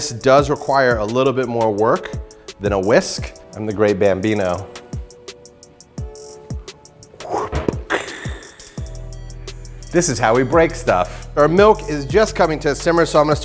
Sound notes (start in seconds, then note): 7.2 baseball hitting bat